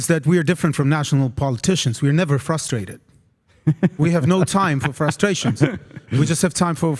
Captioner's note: laugh